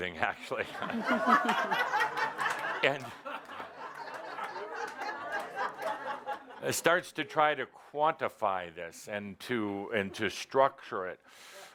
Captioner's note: laughter